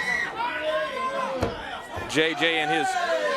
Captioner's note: crowd chatter